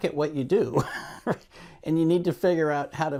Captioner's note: laughs